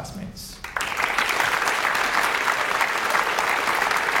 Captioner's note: audience applauds